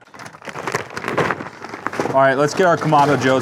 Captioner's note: charcoal rustling